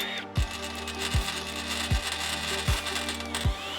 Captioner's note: power tools